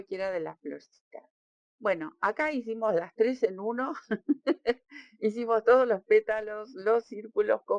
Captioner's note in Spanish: risas